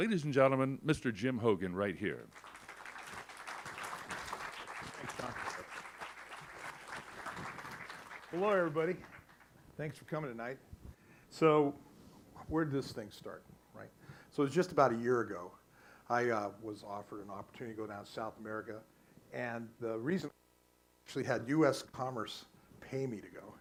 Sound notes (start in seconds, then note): 2.3 applause